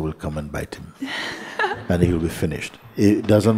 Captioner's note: questioner laughs